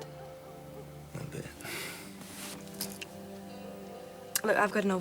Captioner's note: laughs